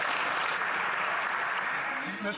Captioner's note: some Applause